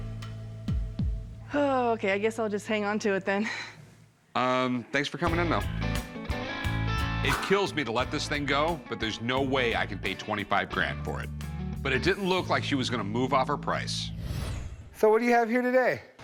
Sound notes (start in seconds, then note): 0.6 sighs